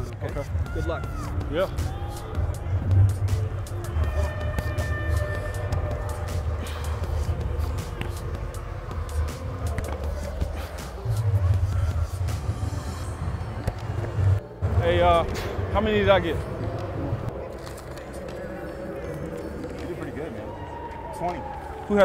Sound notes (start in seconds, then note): 3.7 horn blares; 5.2 upbeat music